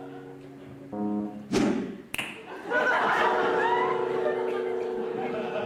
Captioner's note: air whooshes; finger snaps; audience laughs